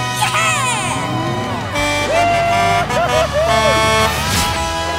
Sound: honking

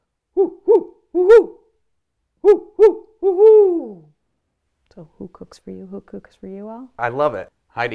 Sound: owl sounds

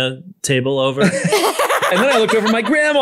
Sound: laughter

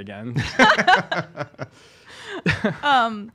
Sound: laughing

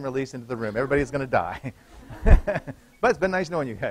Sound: laughter

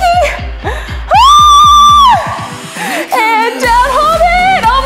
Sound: screams

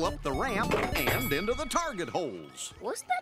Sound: thunk, bell ringing

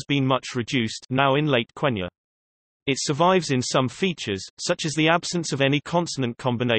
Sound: now in late Quenya

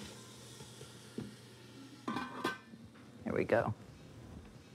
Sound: onions sizzling

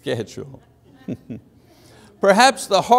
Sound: laughs

